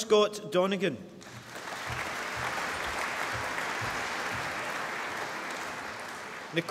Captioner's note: applause